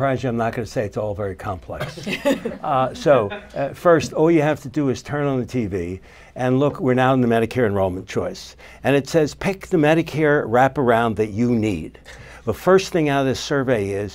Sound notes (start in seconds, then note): 1.8 laughter